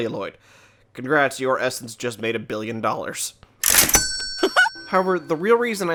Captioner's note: ka-ching!